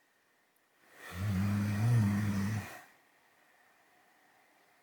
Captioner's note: dog snoring